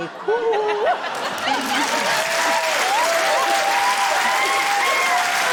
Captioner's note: laughter, cheering, applause